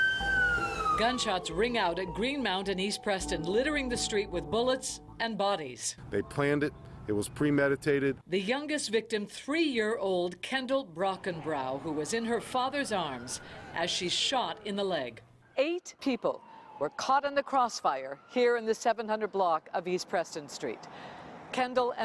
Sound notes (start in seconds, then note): 9.5 sirens